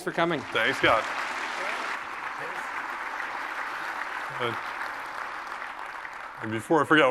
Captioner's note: applause